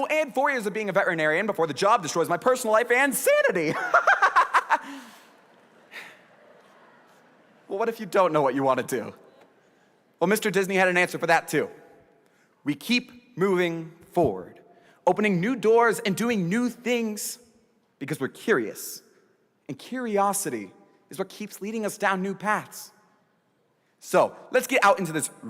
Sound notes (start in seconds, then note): 8.4 laughter